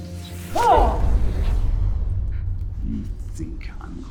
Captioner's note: grunting